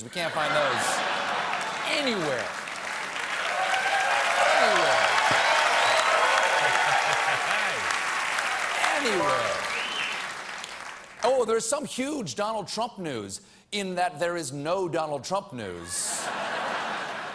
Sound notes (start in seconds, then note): 3.0 cheers and applause